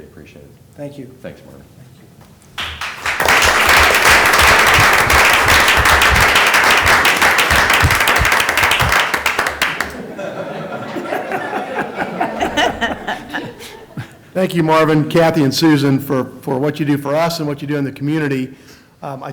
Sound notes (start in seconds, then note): 9.1 applause